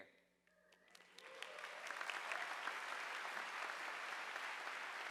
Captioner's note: audience applauding